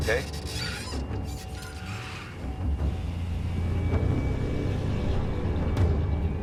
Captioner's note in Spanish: Ruido de la camioneta